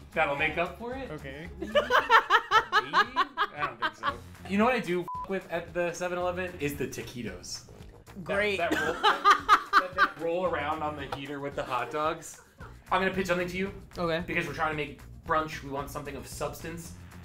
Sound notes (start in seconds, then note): 1.6 laughs; 8.7 laughs